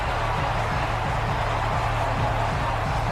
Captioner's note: crowd Noises